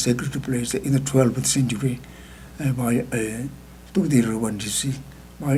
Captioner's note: speaking tibetan